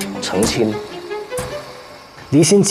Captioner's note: A centrifuge spins at high speed